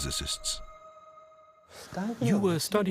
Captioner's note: speaking japanese